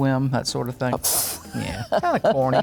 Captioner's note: laughs